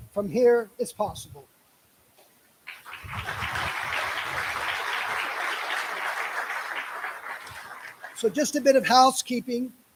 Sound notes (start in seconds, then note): 2.6 applause